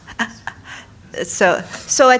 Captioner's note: laughter